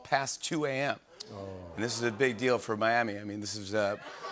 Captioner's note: audience ohs